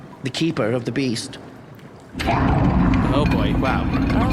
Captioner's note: the beast roars